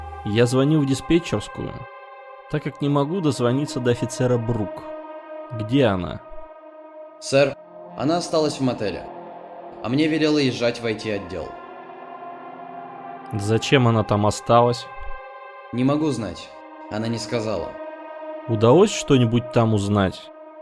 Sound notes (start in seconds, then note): none